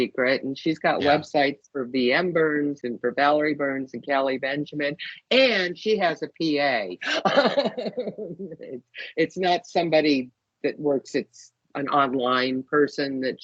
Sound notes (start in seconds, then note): 7.0 laughing